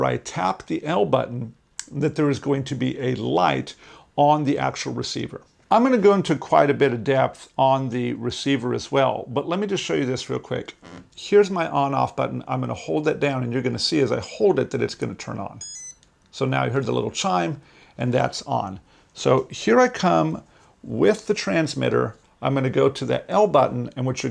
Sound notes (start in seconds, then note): 15.6 beep